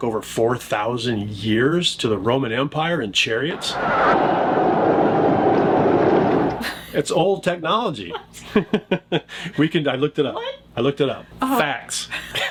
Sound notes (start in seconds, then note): 3.6 chariots rolling; 8.9 laughs; 12.3 people laughing